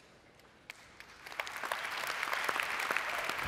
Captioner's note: clapping!